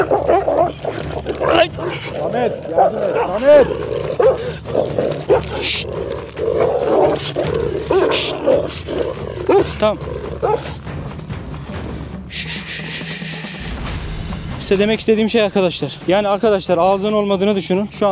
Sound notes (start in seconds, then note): 0.0 growling, barking sounds and tension music; 3.7 growling, barking sounds and tension music continues